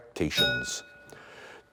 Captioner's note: bell rings